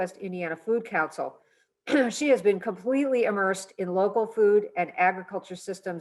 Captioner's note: cough